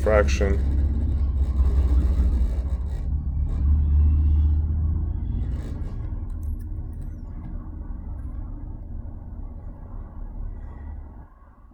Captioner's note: traffic Sounds